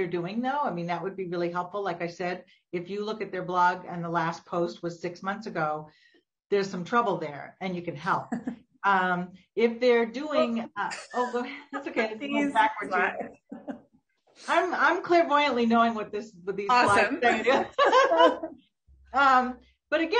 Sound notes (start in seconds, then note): 8.3 laughing; 13.4 both laughing; 17.2 both laughing